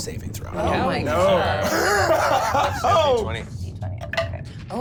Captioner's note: overlapping chatter; laughing